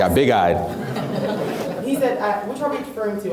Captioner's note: laughs